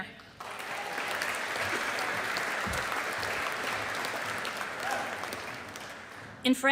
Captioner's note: audience applauding